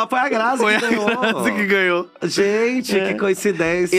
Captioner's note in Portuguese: rindo